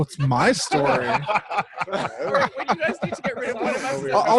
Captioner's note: laughing